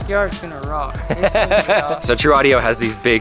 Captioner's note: narrator laughs